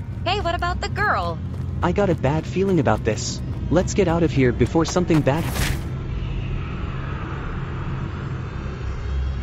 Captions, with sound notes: Hey, what about the girl? I got a bad feeling about this. Let's get out of here before something bad happens. (WHACK)